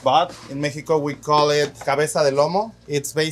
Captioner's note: speaks Spanish